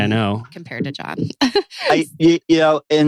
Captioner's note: laughs